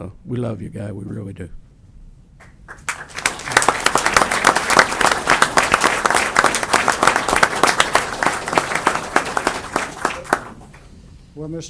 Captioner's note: applause